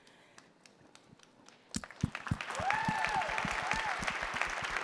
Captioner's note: crowd applauding